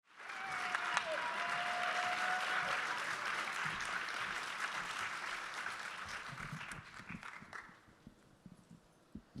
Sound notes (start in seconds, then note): 0.0 audience clapping